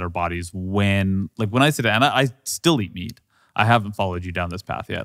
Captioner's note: stammers